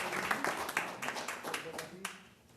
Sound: applause

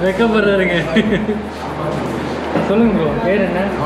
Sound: giggling

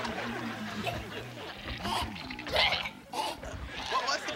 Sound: gagging

